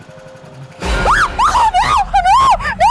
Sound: shrieks

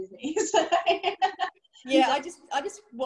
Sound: laughs

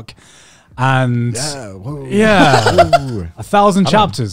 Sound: laughing

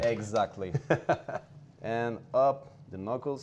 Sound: Ming laughs

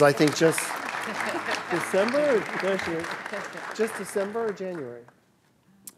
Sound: all applauds

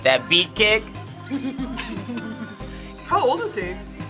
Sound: both laugh

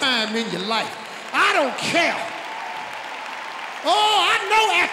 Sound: audience cheering

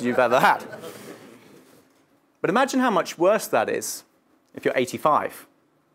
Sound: laugh

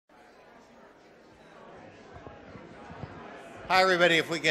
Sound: audience chattering

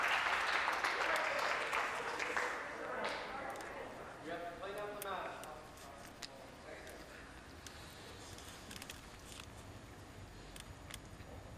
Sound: some Applause

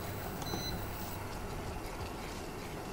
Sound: stove beeps; upbeat music

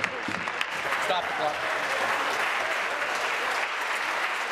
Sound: applause

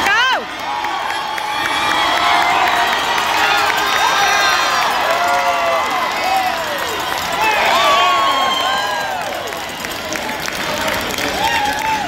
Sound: cheers and applause from crowd

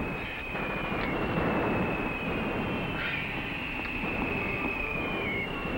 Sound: incoming artillery whistling and shells exploding; radio playing music

